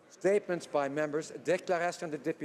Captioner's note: speaking French